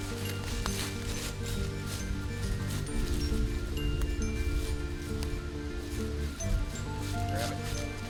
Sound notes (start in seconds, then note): 0.0 gentle music; 0.0 leaves crunching